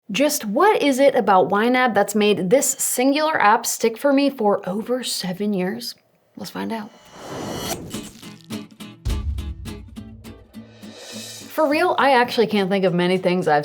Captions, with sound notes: - Just, what is it about YNAB that's made this singular app stick for me for over seven years? Let's find out (uptempo cheery music) (logo whooshing) For real, I actually can't think of many things